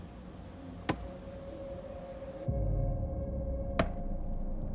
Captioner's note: ax hacking tree stump